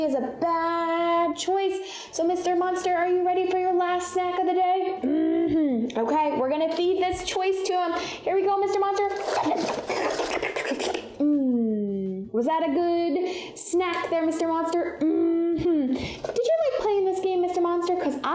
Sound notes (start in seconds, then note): 8.8 slurping; 9.0 paper crunching